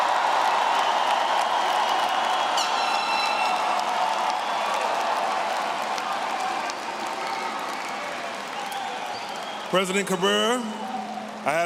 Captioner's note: cheers